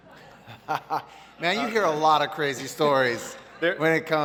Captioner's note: laughs